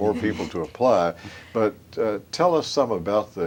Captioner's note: laughter